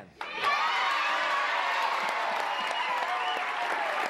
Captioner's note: women cheering